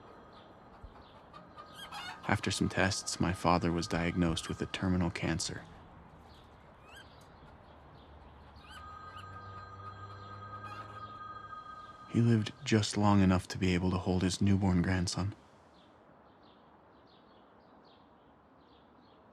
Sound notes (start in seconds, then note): 8.6 phone ringing; 16.4 birds chirping